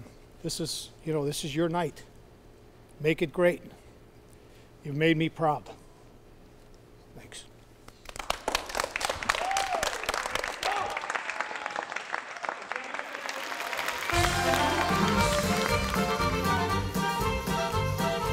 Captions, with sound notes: This is your night. Make it great. You've made me proud. Thanks. (dancers clapping) (lively music)